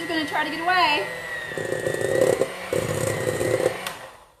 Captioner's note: mixer whirring